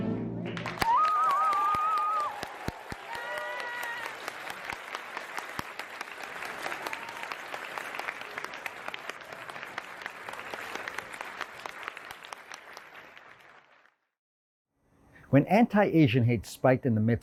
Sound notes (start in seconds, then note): 0.5 audience applause